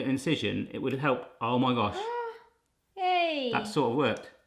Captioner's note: gasping